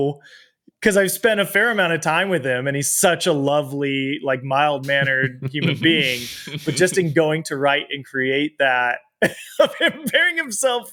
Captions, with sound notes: 'Cause I've spent a fair amount of time with him and he's such a lovely, like, mild-mannered human being. But just going to write and create that... (LAUGHS) ...of him burying himself,